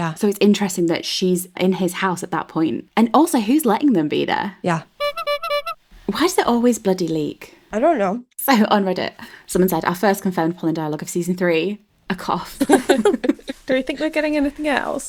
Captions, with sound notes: - Yeah. - So it's interesting that she's in his house at that point. And also who's letting them be there? - Yeah. (clown noise) (clown horn) - Why is there always a bloody leak? - I don't know. So on Reddit, someone said, "First confirmed Polin dialogue of season three: A cough." (laughing) - Do we think they're getting anything else?